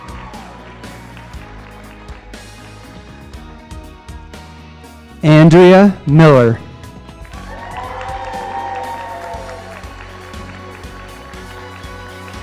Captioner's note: applause